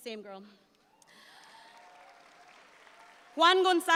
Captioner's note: audience applauds